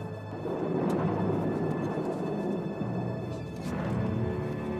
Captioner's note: thunder rumbling; dramatic music